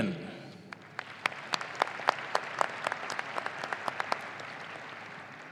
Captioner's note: audience applauding